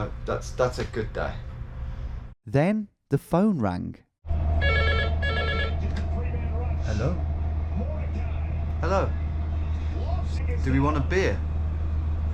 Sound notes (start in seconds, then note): 4.6 phone ringing